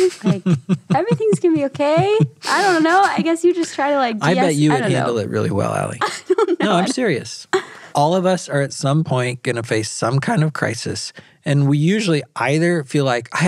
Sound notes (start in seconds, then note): 0.0 laughing; 6.0 laughing